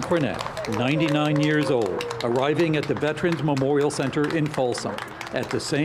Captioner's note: applause